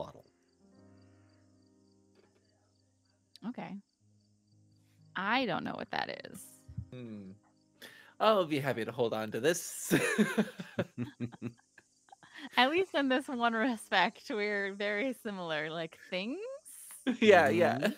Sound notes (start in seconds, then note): 9.8 laughing; 11.8 chuckling